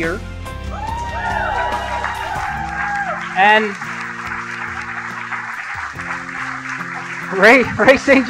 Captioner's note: applause